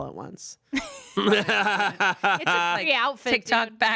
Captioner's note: laughs